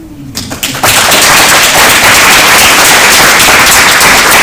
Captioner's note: applause